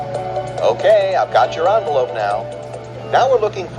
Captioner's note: pat